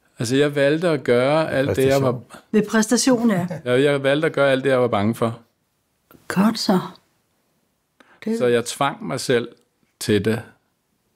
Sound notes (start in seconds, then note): 3.3 laughs